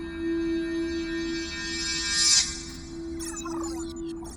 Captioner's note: bomb display warbles